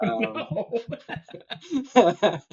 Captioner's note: laughing